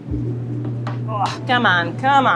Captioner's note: grunts